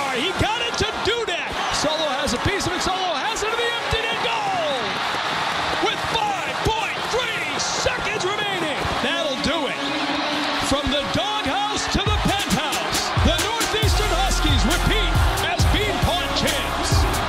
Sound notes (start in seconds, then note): 4.8 audience cheering